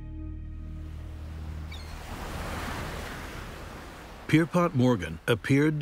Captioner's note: waves crashing, seagulls squawking